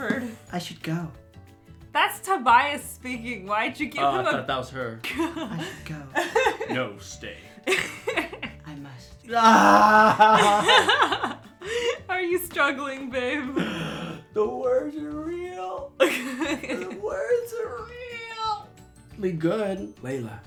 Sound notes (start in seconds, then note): 9.3 fake crying; 9.4 laughing; 16.0 laughing